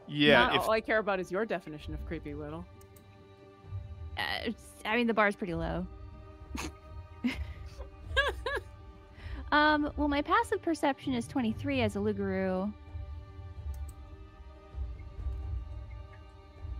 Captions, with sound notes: - Yeah- - All I care about is your definition of creepy, Widdle. - I mean, the bar's pretty low. (players laughing) Well, my passive perception is 23 as a loup-garou. (intense dramatic music)